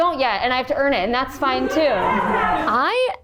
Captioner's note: cast and crew laugh